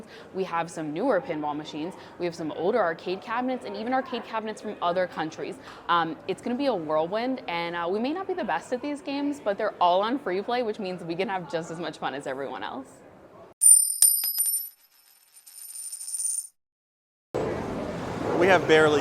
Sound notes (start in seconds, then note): 13.6 coin clinking; 17.4 noisy background chattering